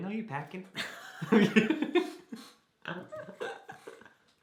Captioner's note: both laugh